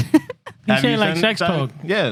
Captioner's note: laughing